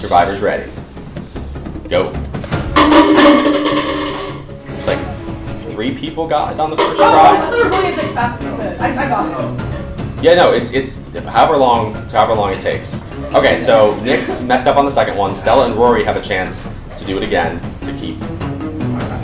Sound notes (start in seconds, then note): 2.6 cups clattering